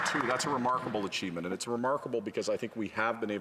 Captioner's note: applause